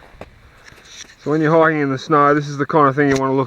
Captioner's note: voiceover